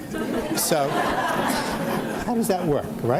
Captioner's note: audience laughs